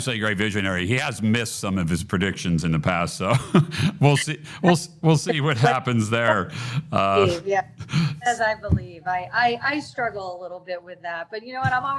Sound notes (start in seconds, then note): 5.2 chuckles